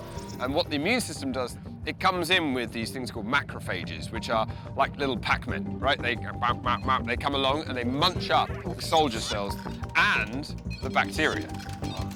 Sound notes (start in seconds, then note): 6.1 gnawing noises